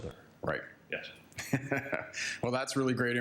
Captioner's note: chuckles